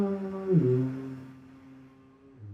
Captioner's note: moaning